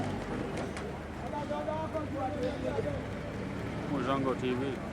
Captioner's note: speaking foreign language